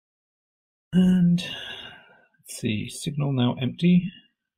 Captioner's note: sigh